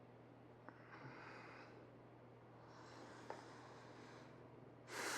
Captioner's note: Parker breathes heavily